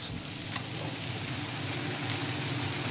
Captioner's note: sizzle